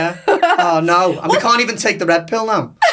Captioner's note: laughs